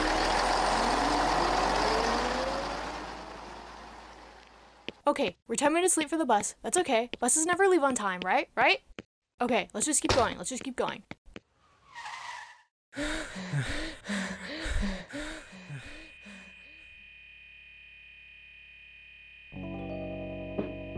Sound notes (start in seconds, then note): 0.0 engine noises fade; 11.8 running screeches to a stop; 13.0 heavy breathing; 16.2 lights buzz